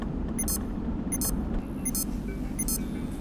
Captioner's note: tracking bleep sound from computer